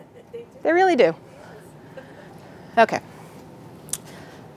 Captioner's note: audience member laughing